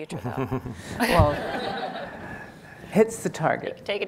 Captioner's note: laughing